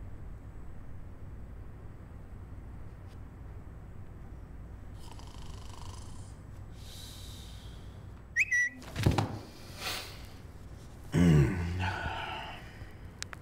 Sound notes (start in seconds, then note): 4.9 snores; 8.3 phone whistles